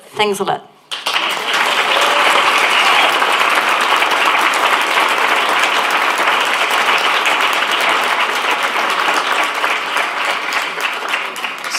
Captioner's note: applause